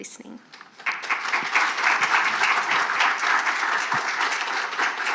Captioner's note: audience clapping